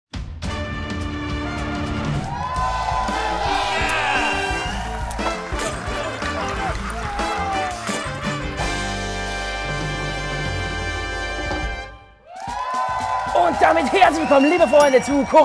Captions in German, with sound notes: (Spannungsvolle Musik) (Jubel) Yeah! No, no, no! No ... (Erwartungsvolle Musik) (Jubel) Und damit herzlich willkommen, liebe Freunde,